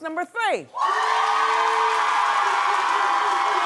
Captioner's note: cheering